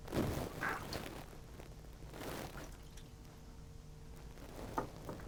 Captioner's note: sloshing water